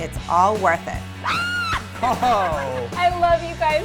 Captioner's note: woman screaming with excitement